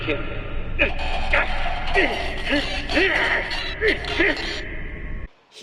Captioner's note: grunting and creaking